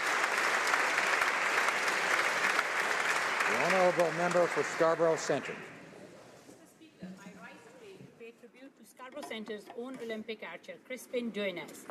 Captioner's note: applause